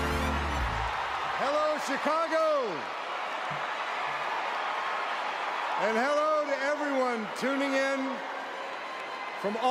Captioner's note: cheering